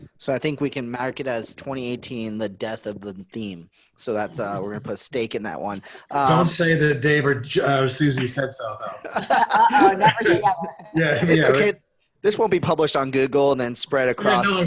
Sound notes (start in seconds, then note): 8.2 laughs